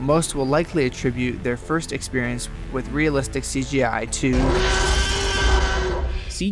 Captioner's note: hard cut to Jurassic Park T-Rex scream